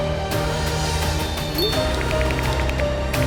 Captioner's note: notification chimes